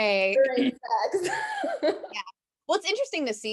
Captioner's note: laughs